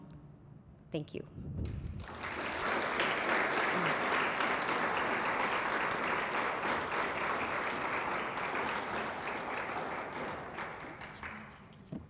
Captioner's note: applause